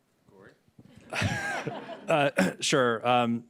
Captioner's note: laughter